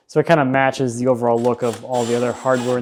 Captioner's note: drill whirring